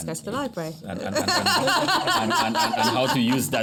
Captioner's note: laughs